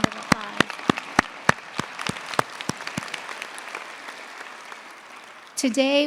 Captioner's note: applause